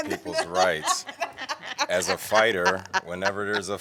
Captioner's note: laughter